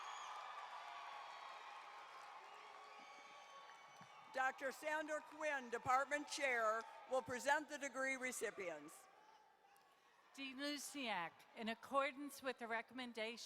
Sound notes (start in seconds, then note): 0.0 cheering and applause